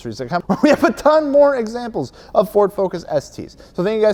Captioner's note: laughs